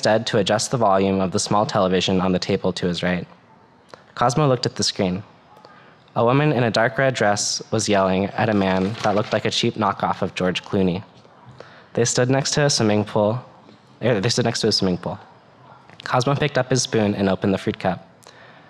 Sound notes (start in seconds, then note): none